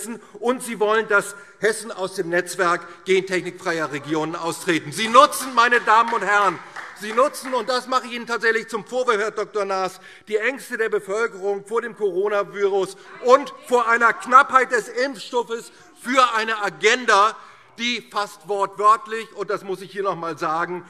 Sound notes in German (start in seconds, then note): 4.7 Demonstrativer Beifall